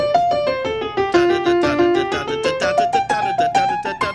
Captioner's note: upbeat blues music; humming